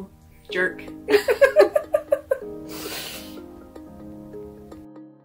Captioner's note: laughter; gentle music